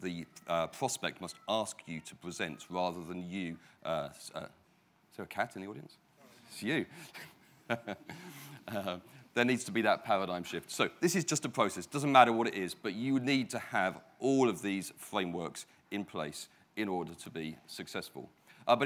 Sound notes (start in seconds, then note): 7.6 laughs